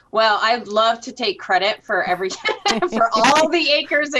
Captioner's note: laughs